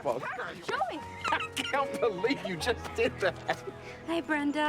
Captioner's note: laughs